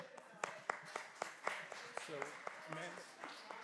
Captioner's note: applause